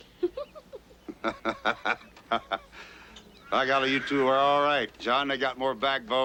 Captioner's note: laughs